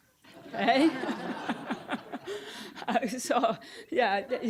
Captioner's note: audience laughing